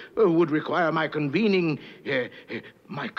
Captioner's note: pants